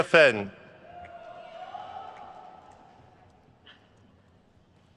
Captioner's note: crowd cheers